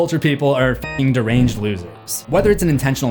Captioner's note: beep